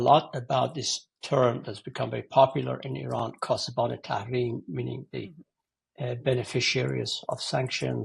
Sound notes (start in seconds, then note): 3.9 foreign language 00:11:03